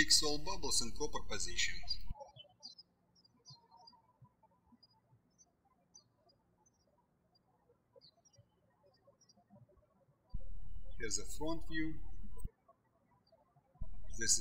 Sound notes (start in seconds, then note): 3.2 birds chirping